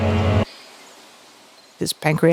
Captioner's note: foreboding music; birds chirping